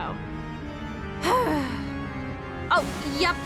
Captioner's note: sighs